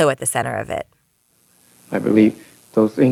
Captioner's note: soundbite of archived recording